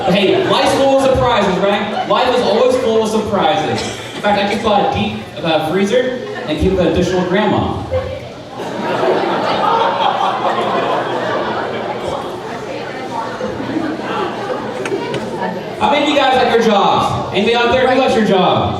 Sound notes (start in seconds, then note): 8.0 crowd chuckling; 8.5 crowd chattering